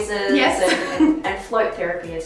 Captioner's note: laughs